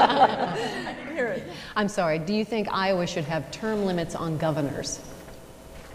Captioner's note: laughter